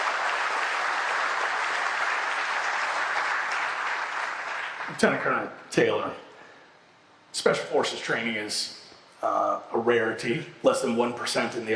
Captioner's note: applause